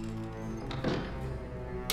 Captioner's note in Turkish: Kapı kapanma sesi